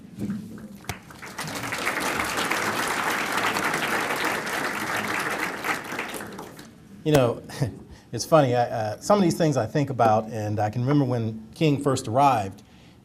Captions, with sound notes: [ APPLAUSE ] YOU KNOW, IT'S FUNNY [CHUCKLES], SOME OF THESE THINGS I THINK ABOUT AND I CAN REMEMBER WHEN KING FIRST ARRIVED